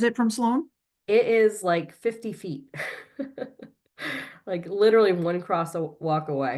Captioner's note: chuckles